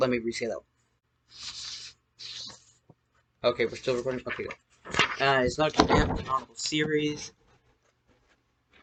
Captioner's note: papers rustling